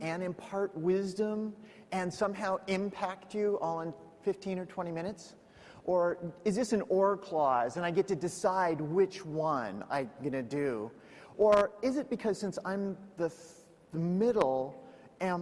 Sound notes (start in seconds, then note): none